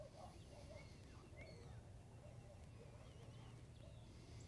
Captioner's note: heavy breathing